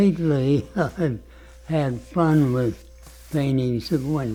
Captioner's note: laughs